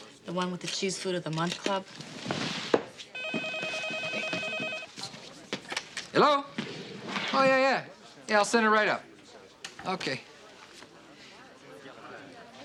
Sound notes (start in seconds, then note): 3.1 phone ringing